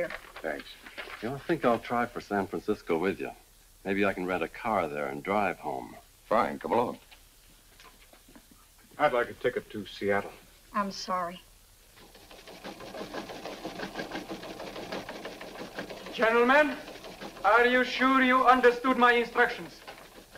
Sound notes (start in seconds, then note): 12.0 machine rattling